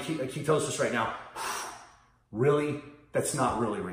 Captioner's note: blows